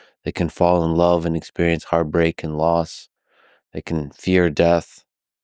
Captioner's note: none